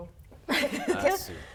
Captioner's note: laughing